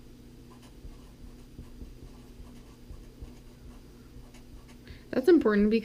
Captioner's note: pen writing on paper